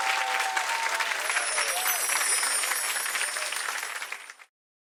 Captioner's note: chimes tinkling